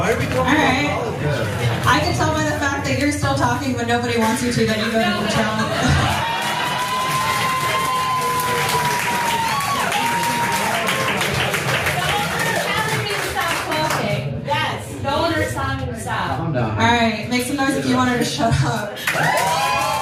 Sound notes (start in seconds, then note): 5.0 laugh; 6.0 applause; 19.0 applause